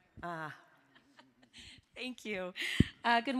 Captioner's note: laughing